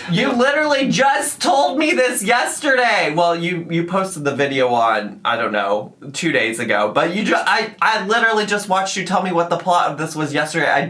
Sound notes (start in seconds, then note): none